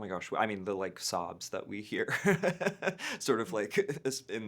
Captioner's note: laughing